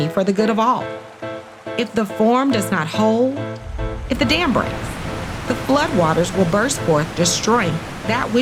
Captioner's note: rushing water